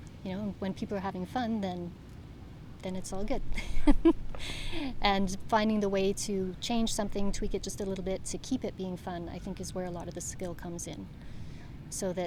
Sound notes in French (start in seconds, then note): 3.6 Des rires